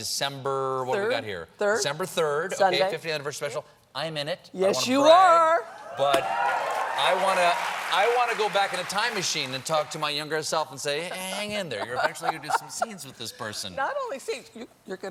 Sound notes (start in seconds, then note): 6.3 applause